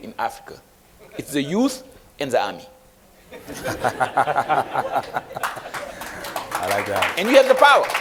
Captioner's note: applause